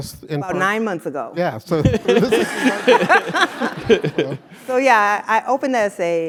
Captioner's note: laugh